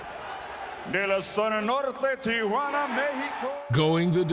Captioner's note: announcer speaking in foreign language